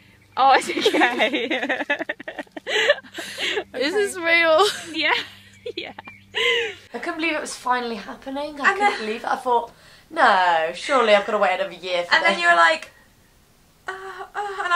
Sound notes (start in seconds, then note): 2.2 both laugh; 4.3 laughs; 6.2 laughs